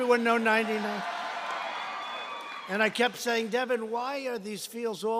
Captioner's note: applause